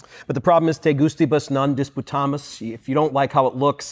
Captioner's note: non-english speech